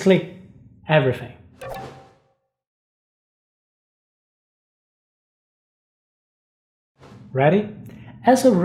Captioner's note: pause